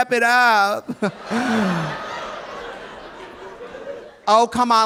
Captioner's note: audience laughing; laughs